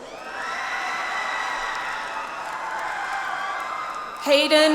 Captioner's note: audience applauds